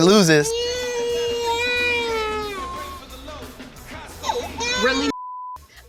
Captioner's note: cries